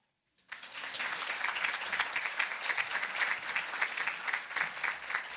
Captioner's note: audience applauding